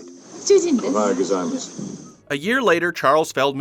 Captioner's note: speaking Japanese with a thick Scottish accent